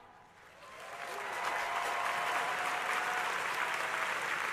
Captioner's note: crowd applauding